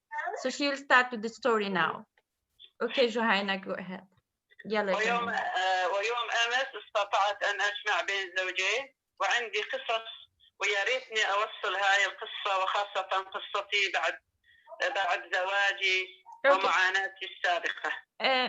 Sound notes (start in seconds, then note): 2.3 speaking in another language/ Interpretation